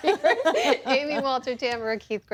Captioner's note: laughter